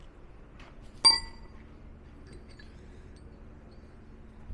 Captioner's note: metal clanking